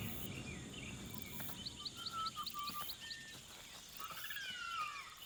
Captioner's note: birds tweeting